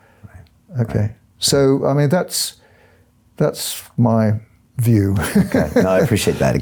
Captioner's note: laughs